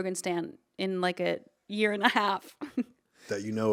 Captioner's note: chuckling